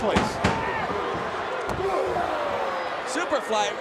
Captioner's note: crowd yelling